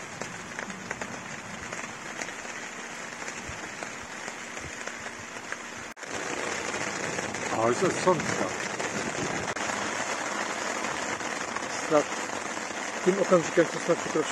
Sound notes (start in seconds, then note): 6.0 rain; 11.8 storm